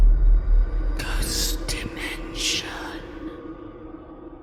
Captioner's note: voiceover